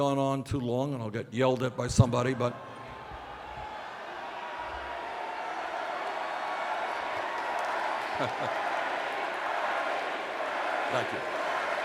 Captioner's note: cheers of Bernie!